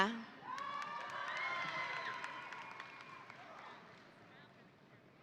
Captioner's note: audience applauding